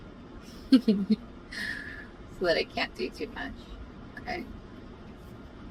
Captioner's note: laughs